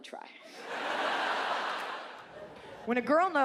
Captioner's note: audience laughs